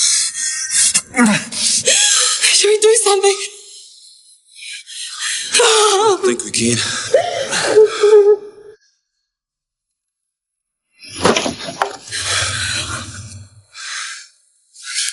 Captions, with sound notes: - Should we do something? - I don't think we can. (Jodie sobbing)